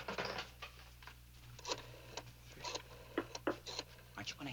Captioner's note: dialing